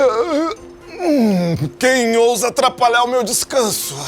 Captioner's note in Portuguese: Homem bocejando